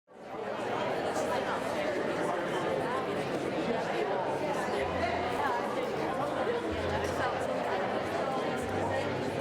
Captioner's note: crowd chatter